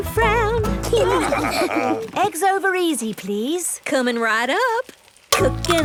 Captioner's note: laughing